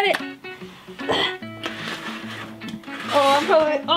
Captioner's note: grunts